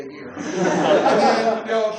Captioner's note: laughter